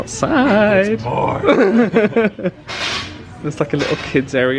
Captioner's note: laughs